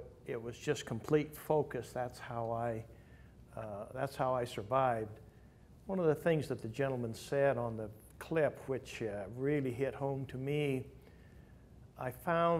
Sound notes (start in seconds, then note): none